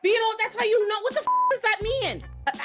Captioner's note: beep